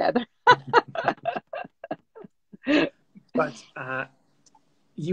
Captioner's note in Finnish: Laughs